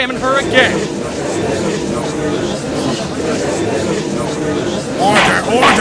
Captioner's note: gallery chattering loudly